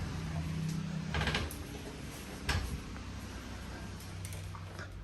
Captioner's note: door creaking